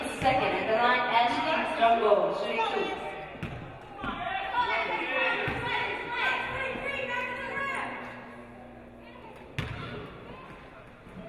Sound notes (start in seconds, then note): none